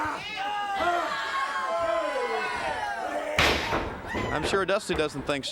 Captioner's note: crowd cheering